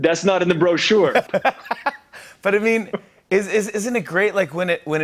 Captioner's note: laughs